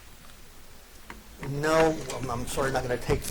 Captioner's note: none